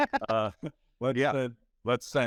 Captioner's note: laughing